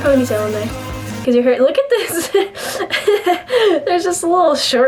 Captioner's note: laughs